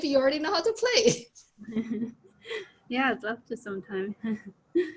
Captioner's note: laughs